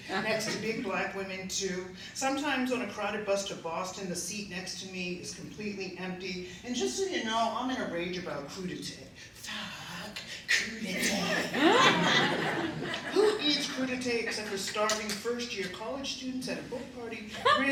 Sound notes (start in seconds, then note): 11.0 laughter